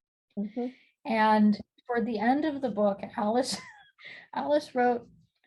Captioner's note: chuckling